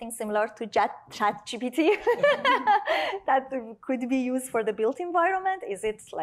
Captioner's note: laughing